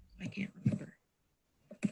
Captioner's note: none